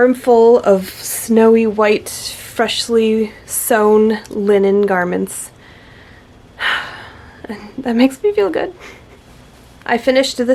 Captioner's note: happy sigh